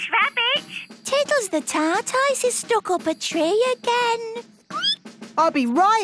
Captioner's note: squeaking